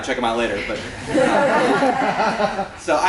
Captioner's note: laughter